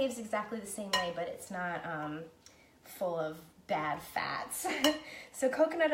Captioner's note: laughing